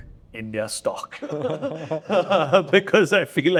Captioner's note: laughing